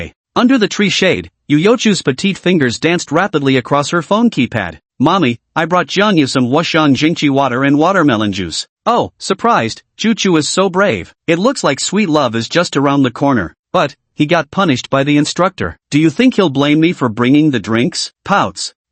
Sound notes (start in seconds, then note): 8.8 surprised